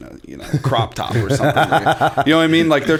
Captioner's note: chuckle